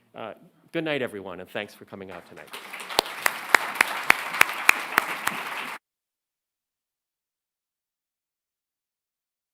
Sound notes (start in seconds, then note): 2.1 applause